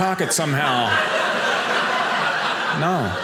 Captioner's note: audience laughing